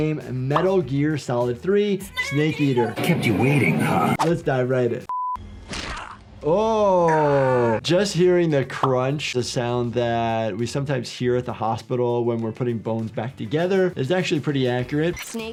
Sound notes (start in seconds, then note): 5.7 bone crunches; 6.5 Snake grunts